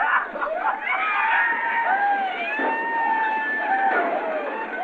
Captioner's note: yelling and gunshots